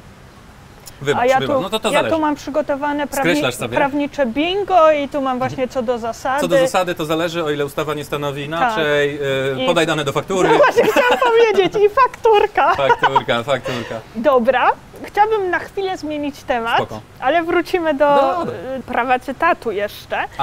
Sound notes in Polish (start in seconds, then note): 10.4 śmiech